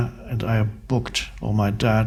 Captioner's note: none